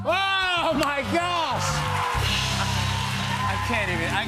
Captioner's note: cheers and applause